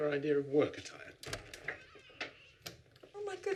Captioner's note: door creaks